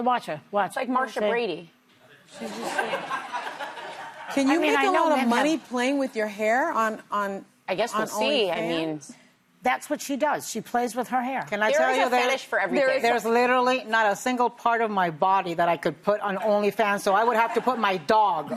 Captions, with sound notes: Watch. Like, "Martia Brady." [ Laughter ] Can you make all the money playing with your hair on... I guess the only thing I mean. That's what she does. She plays with her hair. Can I tell you that? There is a fetish for everything.